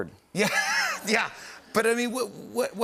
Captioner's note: laughter